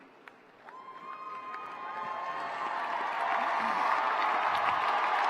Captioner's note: cheering